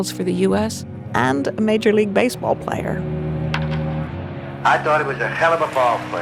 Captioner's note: baseball bat cracking